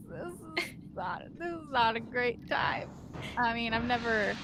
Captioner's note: Calla chuckles